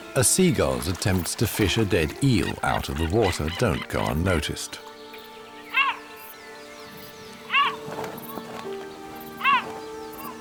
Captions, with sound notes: A seagull's attempts to fish a dead eel out of the water don't go unnoticed. [eagle caws]